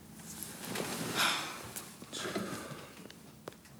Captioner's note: Jodie sighs; footsteps tapping